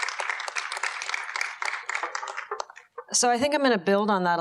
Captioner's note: audience applauds